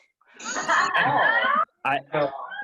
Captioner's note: laughter